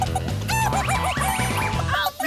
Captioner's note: clucking